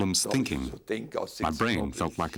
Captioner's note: speaking in foreign language